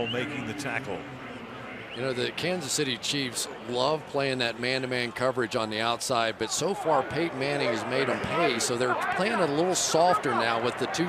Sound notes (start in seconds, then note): 1.6 pa announcement